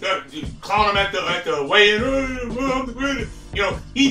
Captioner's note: mumbling, imitates deep voice